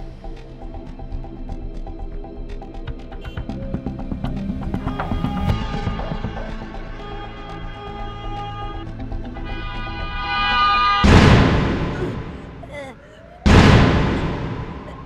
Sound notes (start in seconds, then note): 4.8 traffic honking; 11.2 suspenseful music; 11.9 choking